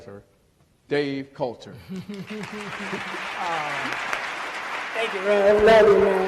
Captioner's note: applause